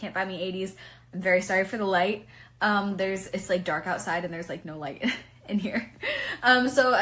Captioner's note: starts laughing